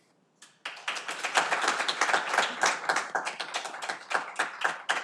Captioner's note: audience applauding